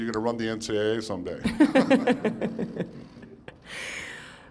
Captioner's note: laughter